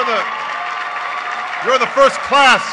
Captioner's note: applause